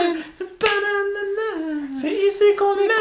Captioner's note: hums